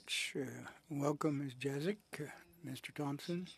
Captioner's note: speaking French